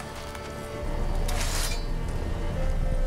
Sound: sword unsheathes

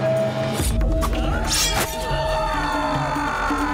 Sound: sword clinging

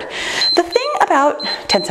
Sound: timer beeps

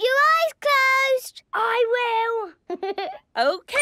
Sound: Danny laughing

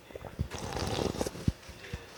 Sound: sip

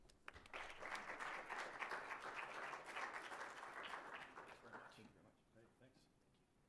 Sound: applause

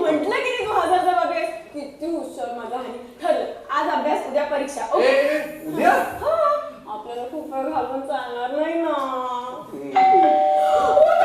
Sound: bell rings

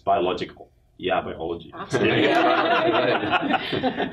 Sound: everybody laughing

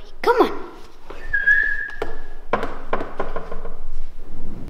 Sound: whistles

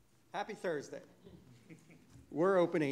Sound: audience laughing

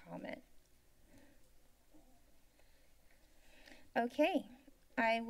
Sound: silence

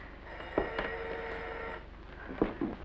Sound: telephone rings

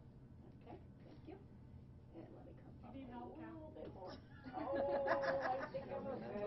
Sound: laughing

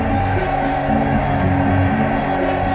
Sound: chants

